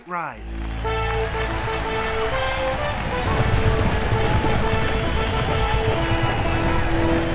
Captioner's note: מחיאות כפיים